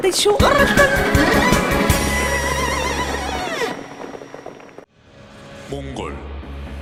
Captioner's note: horse shrieks